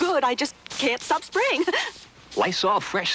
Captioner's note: giggles